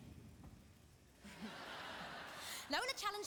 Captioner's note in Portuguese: audience laughing